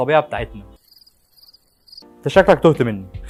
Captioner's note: crickets Chirping